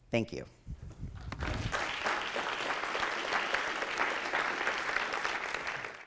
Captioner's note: audience applauding